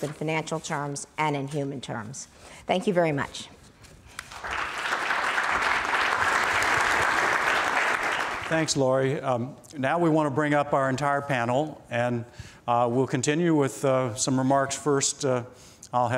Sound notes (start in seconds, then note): 4.1 applause